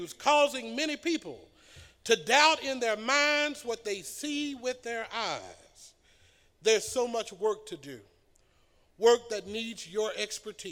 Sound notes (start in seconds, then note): none